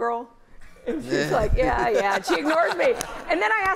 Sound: laughter

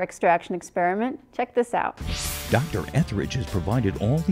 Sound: sound Effects

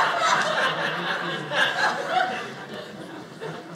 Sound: audience laughing

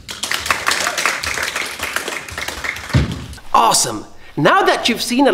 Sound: group applauding

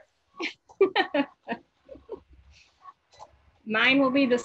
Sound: laughs

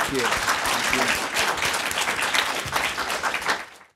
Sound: audience applauding

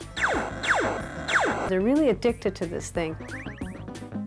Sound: laser fire

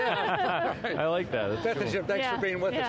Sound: laughter

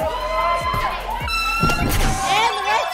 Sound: air horn signifying completion

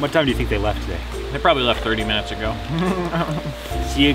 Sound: laughs

